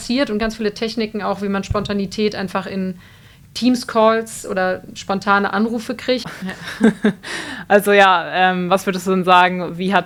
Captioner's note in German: gelächter